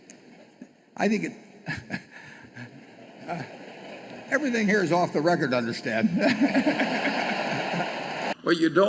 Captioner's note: laughs; laughter